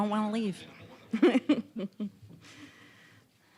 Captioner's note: scattered chuckling